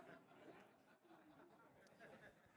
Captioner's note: laughter